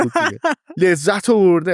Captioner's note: laughs